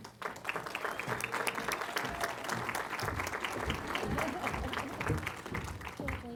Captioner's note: applause